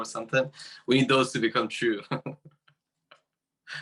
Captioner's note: laughing